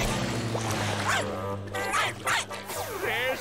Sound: barking

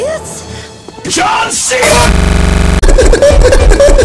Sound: stutter; Tigger stutter

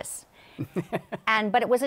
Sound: laughs

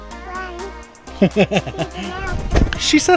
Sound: dad laughing

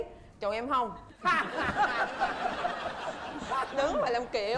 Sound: laughing

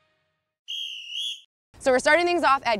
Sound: whistle blows

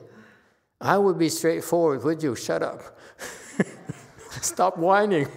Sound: laughs

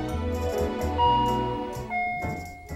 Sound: ding dong

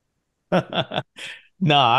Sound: chuckling

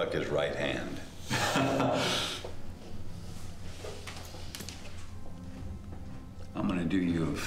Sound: laughs

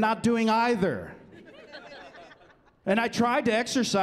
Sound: chuckling

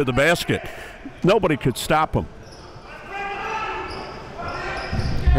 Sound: yelling

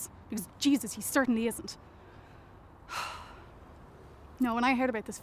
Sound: sighs

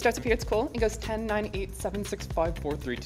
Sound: voice progressively getting deeper

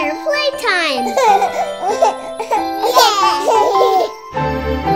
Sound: children laugh

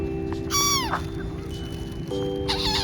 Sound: bird voice

